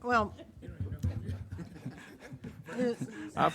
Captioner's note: speaking faintly